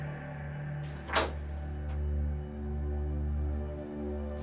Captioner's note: door clicks